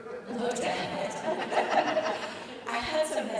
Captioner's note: all laughing